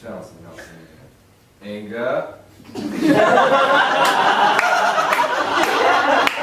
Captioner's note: audience laughing